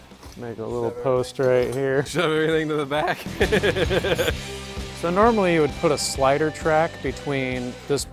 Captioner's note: laughs